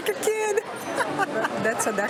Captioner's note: laughs